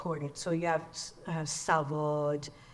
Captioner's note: speaks in foreign language